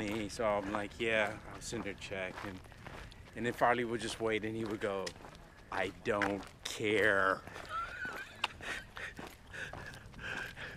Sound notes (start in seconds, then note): 5.7 impersonating Chris Farley; 7.5 laughter